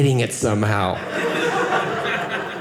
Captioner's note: audience laughing